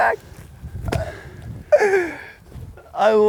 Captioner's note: laughs; laughs